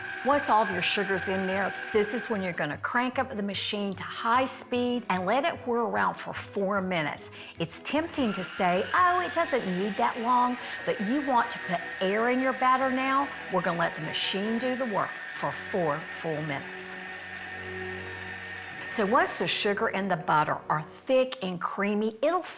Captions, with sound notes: Once all of your sugar's in there, this is when you're gonna crank up the machine to high speed and let it whirl around for four minutes. It's tempting to say, "Oh, it doesn't need that long," but you want to put air in your batter now. We're gonna let the machine do the work for four full minutes. [mixer whirring] So once the sugar and the butter are thick and creamy,